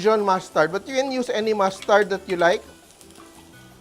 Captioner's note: sizzles